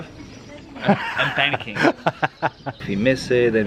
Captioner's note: laughs